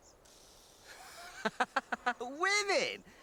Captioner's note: Eric laughs